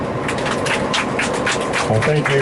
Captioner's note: applause